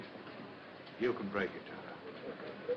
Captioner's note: sobbing